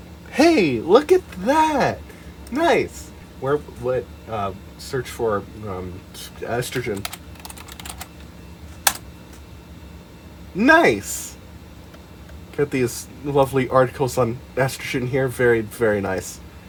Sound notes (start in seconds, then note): 6.7 ASMR typing noises